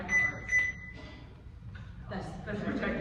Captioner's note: device beeps